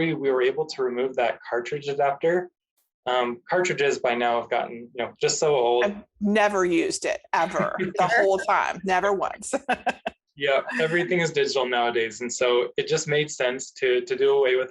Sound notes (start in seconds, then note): 10.4 laughs